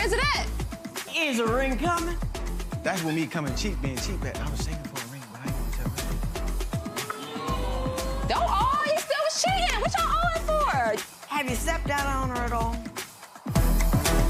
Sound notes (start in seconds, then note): 6.8 audience awws; 14.0 upbeat theme music